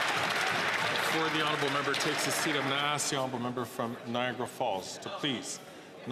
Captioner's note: some Applause